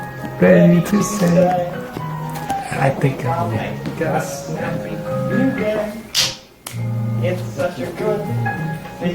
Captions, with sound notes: Ready to say, I think I'll make it snappy new day [snap, snap]